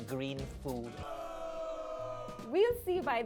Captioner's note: gasps